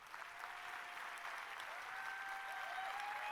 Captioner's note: applause